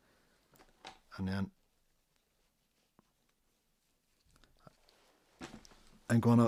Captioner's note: silence